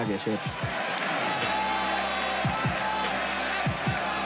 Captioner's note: cheers